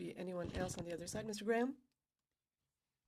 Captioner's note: speaking French